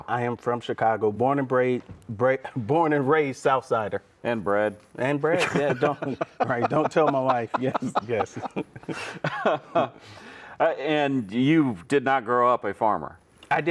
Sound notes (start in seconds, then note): 5.3 laughing